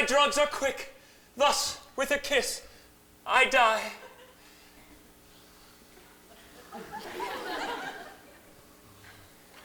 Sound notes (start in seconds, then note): 6.4 scattered laughter